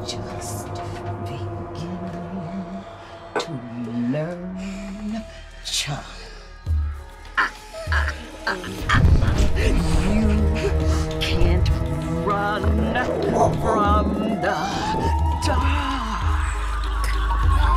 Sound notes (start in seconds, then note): 8.4 Mrs. Webb laughs; 13.4 dog barking